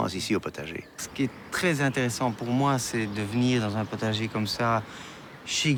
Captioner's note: speaking in foreign language